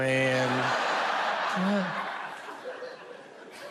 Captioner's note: audience laughs